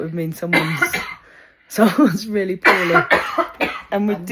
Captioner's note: coughing